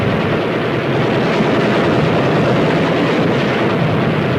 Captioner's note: guns firing